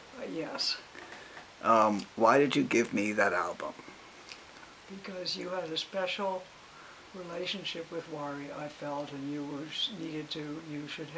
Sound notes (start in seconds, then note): 2.3 voiceover